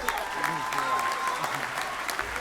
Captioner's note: applause